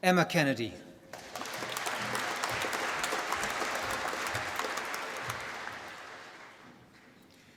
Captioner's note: applause